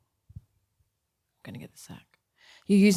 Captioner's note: quietly